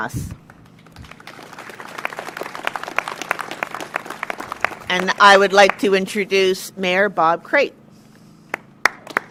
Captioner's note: applause